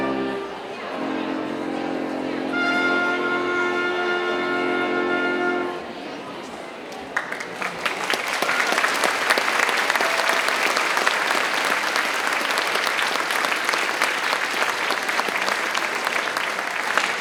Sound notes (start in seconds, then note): 0.0 ceremonious music continues; 8.1 attendees applauding